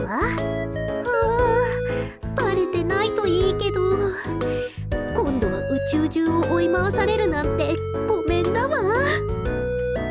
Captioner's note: sigh